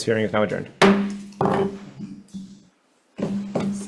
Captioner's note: gavel bangs